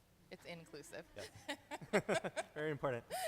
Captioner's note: laughing